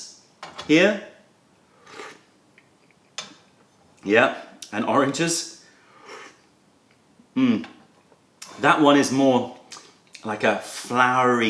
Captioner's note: sips tea